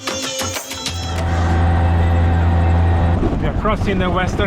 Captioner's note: indian music; auto engine